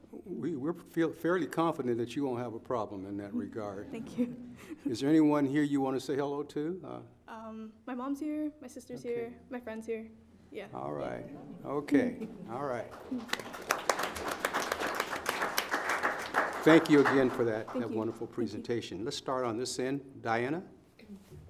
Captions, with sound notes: We feel fairly confident that you won't have a problem in that regard. Thank you. Is there anyone here you want to say hello to? My mom's here, my sister's here, my friend's here, yeah. All right, okay, all right. (audience applauding) Thank you again for that wonderful presentation. Let's start on this end, Diana.